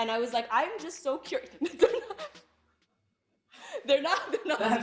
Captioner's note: chuckles